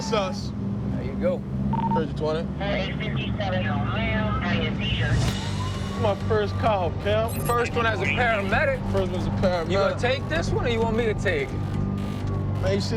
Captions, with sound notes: That's us. There you go. 3220. [sirens] This my first call, pimp. First one as a paramedic. First one as a paramedic. You gonna take this one or you want me to take it?